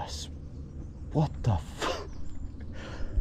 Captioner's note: laughs